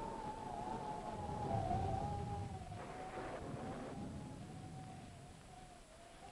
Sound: thunder rumbling; wind howling

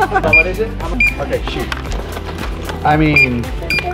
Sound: laughing; cash register beeping

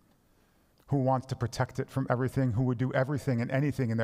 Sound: none

